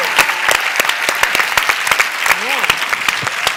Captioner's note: applause